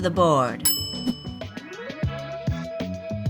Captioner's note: bell dings